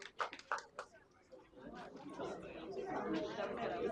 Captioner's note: applause